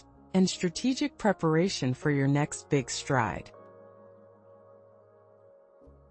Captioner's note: pause